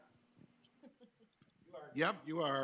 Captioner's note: chuckling